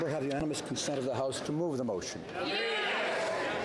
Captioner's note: applause